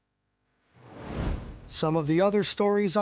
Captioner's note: air whooshing